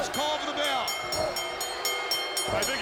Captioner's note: bell ringing